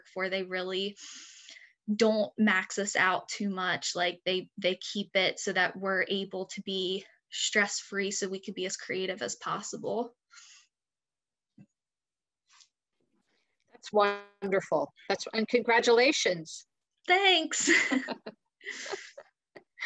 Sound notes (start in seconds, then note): 18.7 laughs